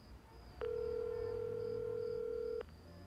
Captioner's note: line ringing